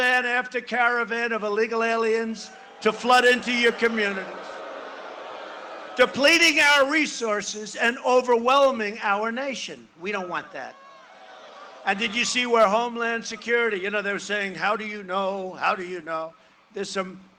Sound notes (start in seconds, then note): 10.0 booing